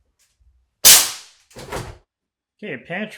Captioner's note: nail gun pops; nail gun thuds